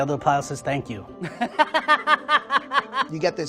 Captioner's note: laughs